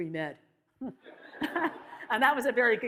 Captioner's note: audience laughs